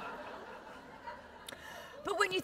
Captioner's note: laughter